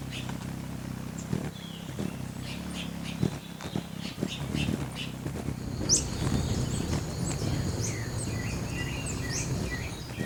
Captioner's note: birds chirping; bird wings flapping